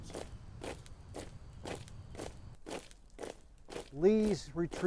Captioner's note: soldiers marching